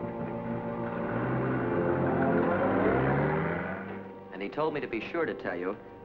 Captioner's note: car rumbling